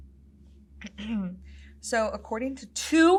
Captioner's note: clears throat